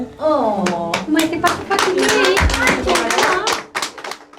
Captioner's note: clapping